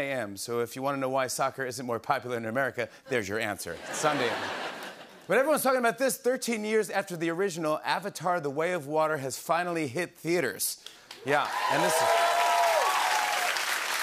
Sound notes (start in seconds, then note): 3.7 laughter; 11.2 cheers and applause